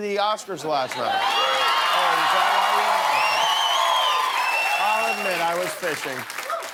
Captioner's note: cheers and applause